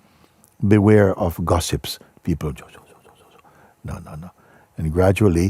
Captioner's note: Flüstern